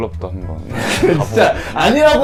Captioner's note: laughing